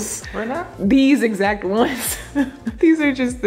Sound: laughing

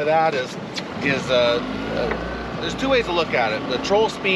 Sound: boat engine running

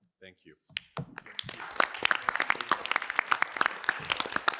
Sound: applause

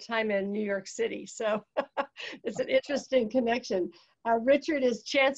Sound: chuckles

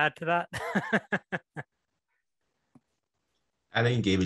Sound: laughter

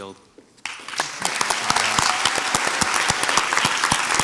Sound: crowd applauds

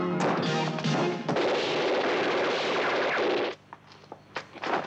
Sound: guns blasting; shuffling

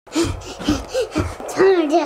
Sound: person breathing heavily

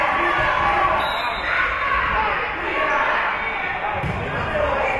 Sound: whistle being blown

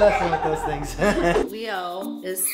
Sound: laughs

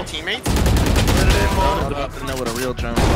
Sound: guns firing

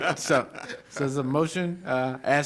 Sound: laughter

